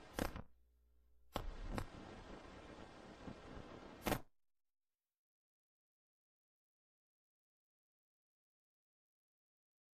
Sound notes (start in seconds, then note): 4.7 silence